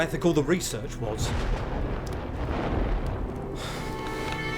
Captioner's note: thunder cracking; George sighs